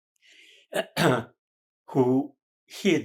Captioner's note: clears throat